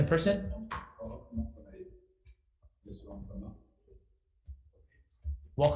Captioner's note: faintly speaking